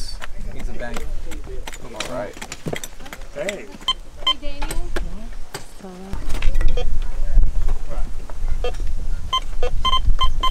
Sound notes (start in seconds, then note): 4.2 metal detector beeping; 9.3 fast beeping